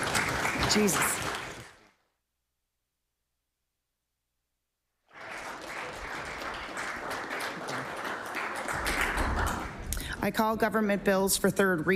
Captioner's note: applause